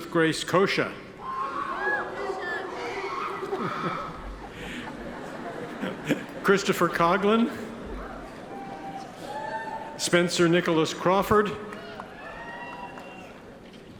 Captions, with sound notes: Elizabeth Grace Cosha. (audience member cheers) (attendees chuckle) Christopher Coughlin. Spencer Nicholas Crawford.